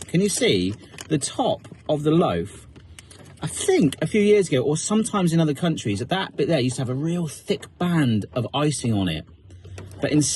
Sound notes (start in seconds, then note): none